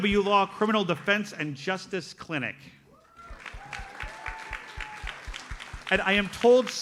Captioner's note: audience applauds